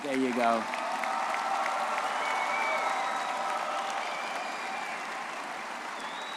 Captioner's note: audience cheering and applauding